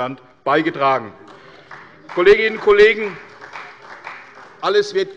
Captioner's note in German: Beifall bei Abgeordneten der CDU